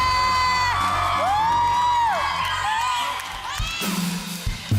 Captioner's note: audience screams